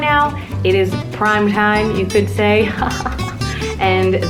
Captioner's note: chuckles